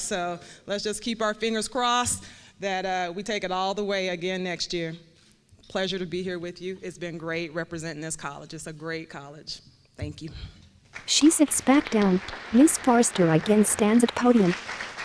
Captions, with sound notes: So let's just keep our fingers crossed that we take it all the way, again, next year. Pleasure to be here with you. It's been great representing this college. It's a great college. Thank you. [APPLAUSE]